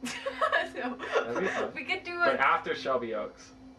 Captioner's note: laughing